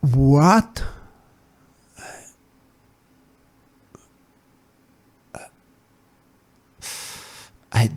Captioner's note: gasps for words